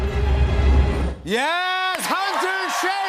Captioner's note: dramatic music intensifies; cheers and applause